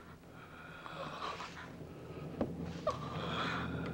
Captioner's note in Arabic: تأوه